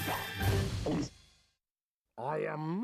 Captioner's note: gulping